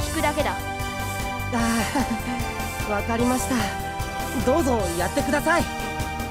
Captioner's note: sigh